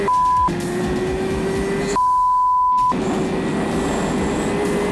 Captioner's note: lots more beeping!